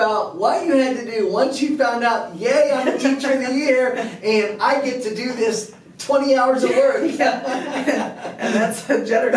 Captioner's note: laughter